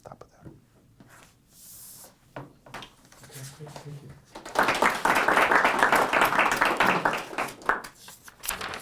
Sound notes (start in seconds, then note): 4.3 audience applauding